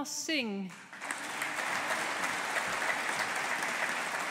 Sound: audience applauding

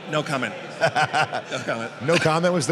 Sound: laughs

